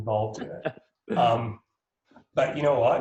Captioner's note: laughs